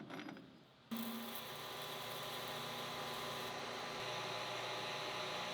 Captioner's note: machine whirring